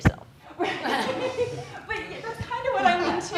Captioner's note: everyone laughs